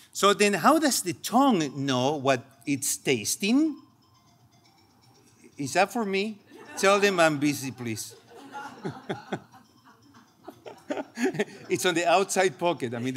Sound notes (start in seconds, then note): 4.3 phone ringing; 7.7 laughing; 9.4 phone ringing